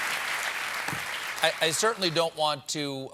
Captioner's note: applause